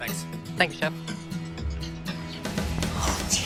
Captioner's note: laughs